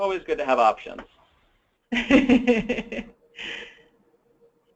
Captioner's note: laughs